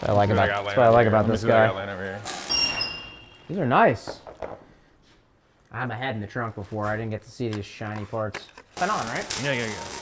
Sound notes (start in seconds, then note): 2.2 tools squealing